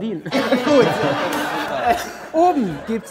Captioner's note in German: Lachen